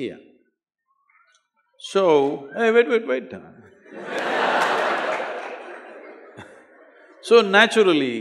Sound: laugh

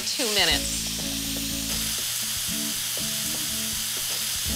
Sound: sizzling

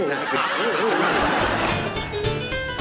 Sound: audience laughs; upbeat music

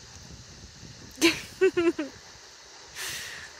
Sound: laughing

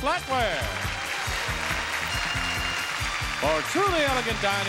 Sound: audience clapping

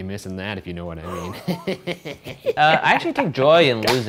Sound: laughter

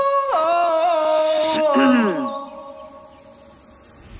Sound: music stops; boy clears throat

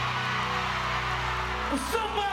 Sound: screams

